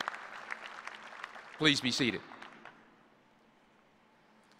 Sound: applause

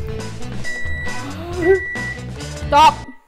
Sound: beep

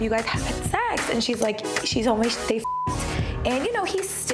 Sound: beep

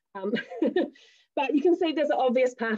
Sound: laughs

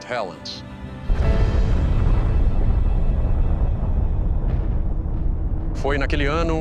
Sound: explosion rumbling

